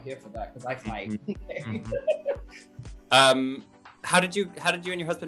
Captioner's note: laughter